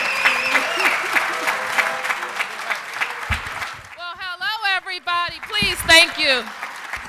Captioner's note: cheers and applause